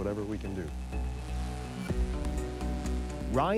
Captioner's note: drone buzzing